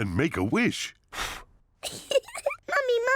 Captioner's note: blows; giggles